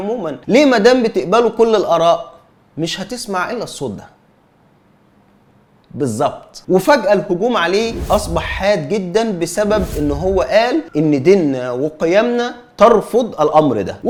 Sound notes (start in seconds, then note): 4.2 silence